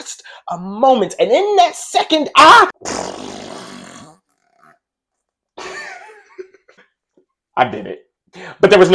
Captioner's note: fart noise